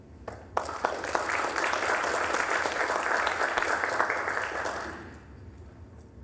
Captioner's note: applause